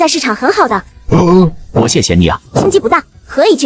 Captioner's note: sarcastic